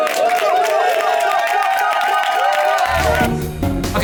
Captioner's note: cast cheers